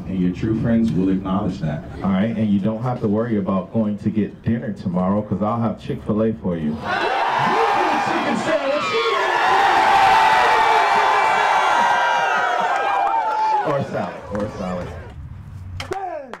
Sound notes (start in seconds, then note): 7.1 students excitedly scream; 9.9 student excitedly scream